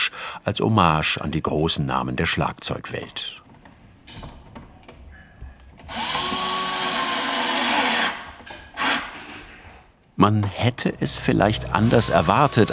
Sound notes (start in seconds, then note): 5.9 drilling noise